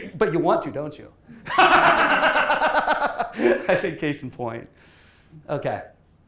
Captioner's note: laughs